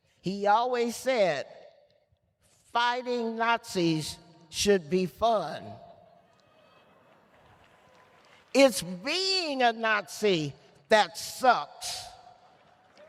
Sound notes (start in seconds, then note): 6.5 applause